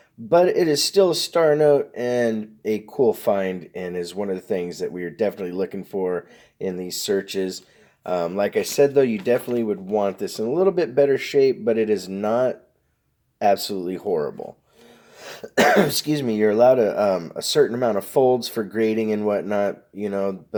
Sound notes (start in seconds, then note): 15.3 coughing